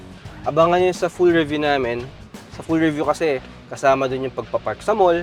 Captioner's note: none